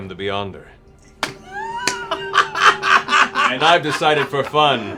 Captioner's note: laughter